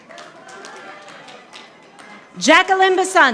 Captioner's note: audience applauding